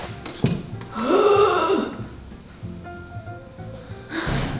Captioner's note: hnnnnngggggg; bell jingling